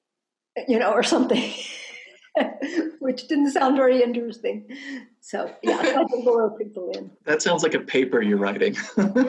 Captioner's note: laughs; laugh